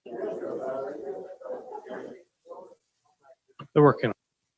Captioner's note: group chattering